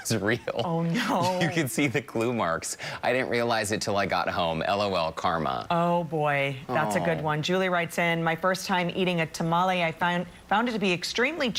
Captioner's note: laughter